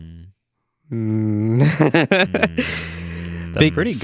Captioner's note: laughing